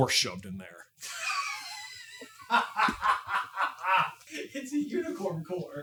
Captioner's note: cracking up HARD